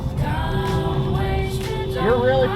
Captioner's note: beeeeeep